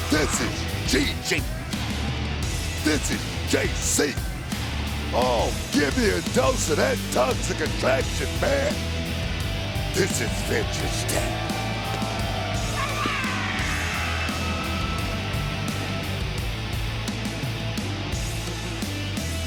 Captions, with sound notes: This is Gigi. This is Jacy. Oh, give me a dose of at Toxic Attraction, man. (upbeat music) This is interesting. (Gigi yelling) (upbeat music)